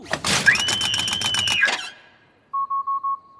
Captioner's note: dummy shrieks